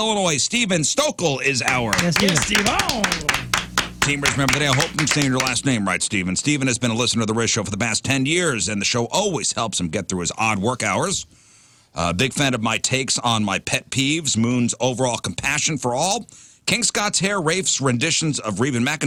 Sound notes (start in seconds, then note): 3.6 clapping